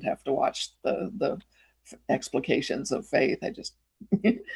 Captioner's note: chuckles